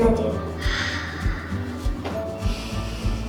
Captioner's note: exhales; inhales